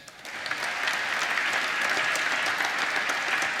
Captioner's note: applause